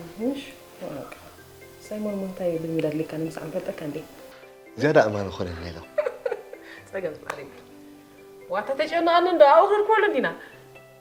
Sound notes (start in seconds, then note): 5.7 laughing